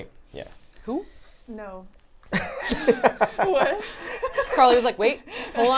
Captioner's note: laughs